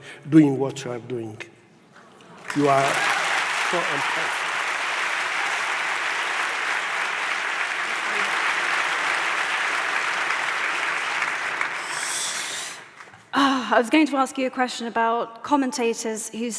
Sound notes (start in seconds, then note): 2.5 audience applauds